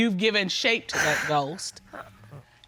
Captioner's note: sobs